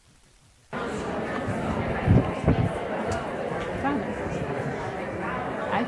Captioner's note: audience chatter continues